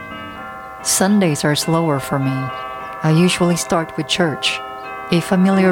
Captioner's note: church bells